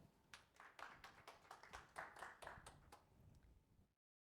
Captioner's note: audience applauding